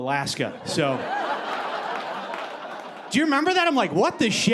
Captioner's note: audience laughing